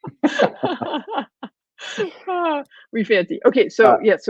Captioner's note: laughing